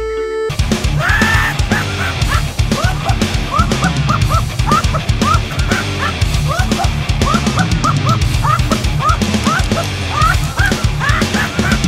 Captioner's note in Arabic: ضحك مجنون